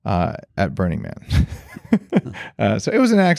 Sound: laughs

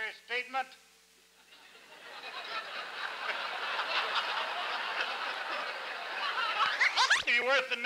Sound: laughter

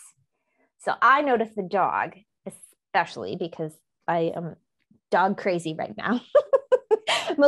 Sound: laughs

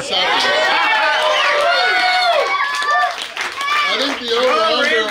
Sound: crowd cheering

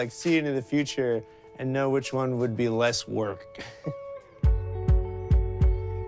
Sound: laughs; soft music

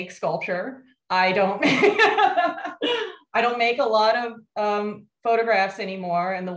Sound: laughs

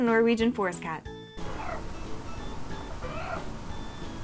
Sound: kawaii trills

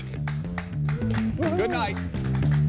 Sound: applause

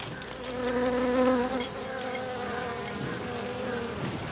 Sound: flies buzzing

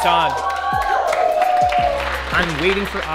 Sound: students cheering

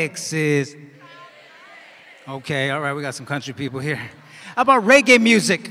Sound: cheers and applause

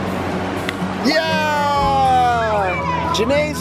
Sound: family cheers

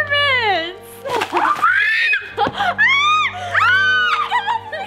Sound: screaming

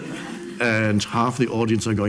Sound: audience laughs

